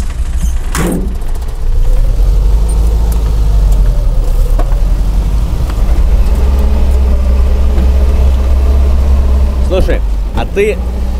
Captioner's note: running car engine